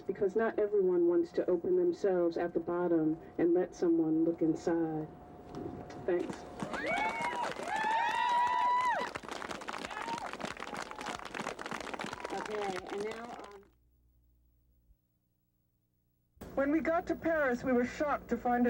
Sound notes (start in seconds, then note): 6.5 crowd cheers, applauds